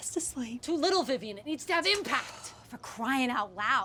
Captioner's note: vivien scoffs